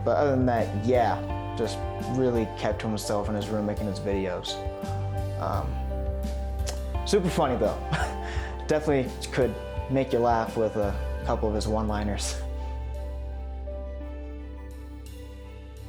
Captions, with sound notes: But other than that, yeah, just really kept to himself in his room making his videos. Super funny, though (chuckles slightly) definitely could make you laugh with a couple of his one liners. (uplifting music)